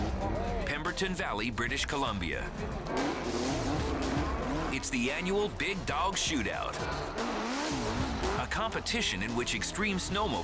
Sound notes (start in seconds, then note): 3.0 engines revving